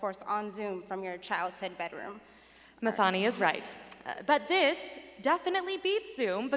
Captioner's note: none